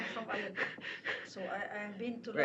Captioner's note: laughter